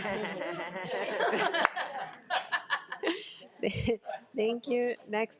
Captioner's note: board of trustees and attendees laugh